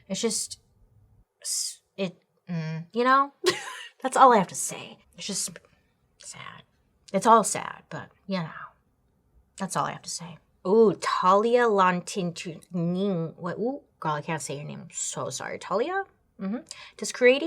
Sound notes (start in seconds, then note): 3.4 chuckles; 11.3 stammering